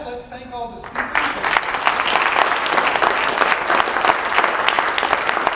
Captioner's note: audience applauds